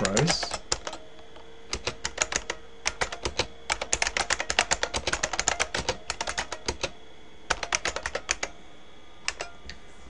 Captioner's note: typing